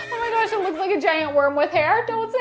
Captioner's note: horse neighs